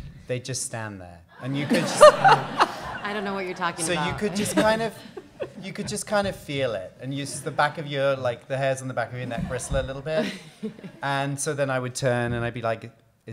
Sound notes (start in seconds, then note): 1.4 audience laughing